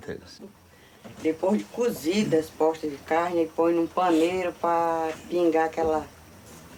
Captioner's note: speaking in foreign language